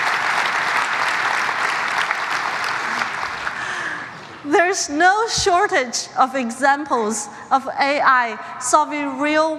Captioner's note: applause